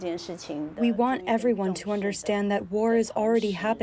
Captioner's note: through translator